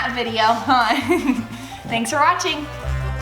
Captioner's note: laughs